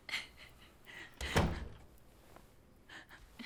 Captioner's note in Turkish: Kapı kapanma sesi